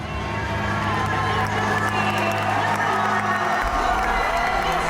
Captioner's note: cheers and applause